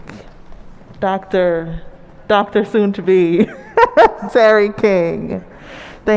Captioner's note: chuckles